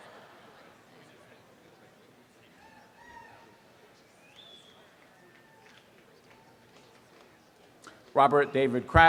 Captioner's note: background chatter